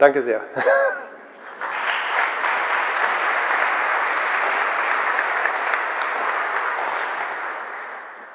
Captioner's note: general applause